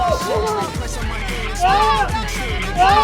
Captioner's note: Hazel screams